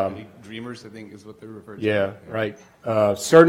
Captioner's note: voiceover